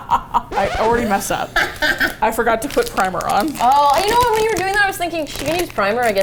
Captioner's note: laughs dryly; laughs